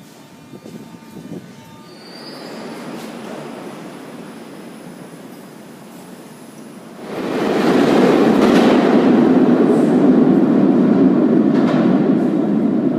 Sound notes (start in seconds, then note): 2.1 arrival of train at the station; 2.1 opening doors